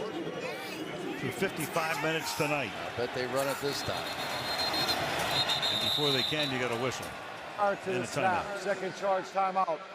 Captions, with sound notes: blanked for 55 minutes tonight. But they run it this time. [whistle] And before they can, we got a whistle. Prior to the snap-- And a timeout.